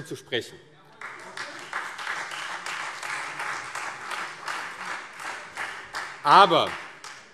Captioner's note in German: Beifall CDU und Freie Demokraten